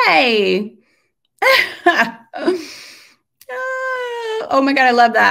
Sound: laughs

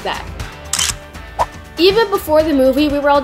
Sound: camera shutter clicks; whooshing

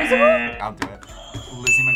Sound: buzzer; buzzer rings; bell rings

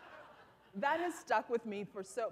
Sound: laughter

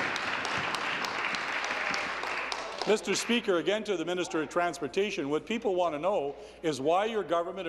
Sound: applause

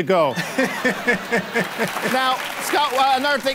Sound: laughing

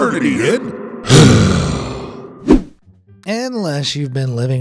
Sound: screen wipe whooshes

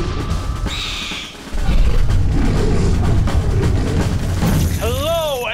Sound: owlbear screeches and roars; marching band drumming

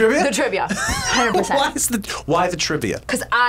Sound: laughs

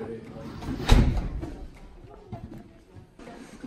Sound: slam

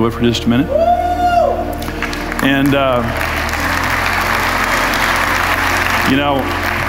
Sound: audience cheers and applauds

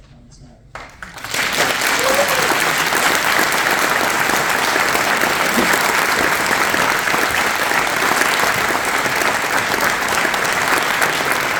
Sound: applause

